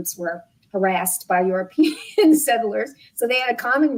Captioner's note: laughs